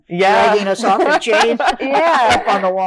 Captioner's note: all laughing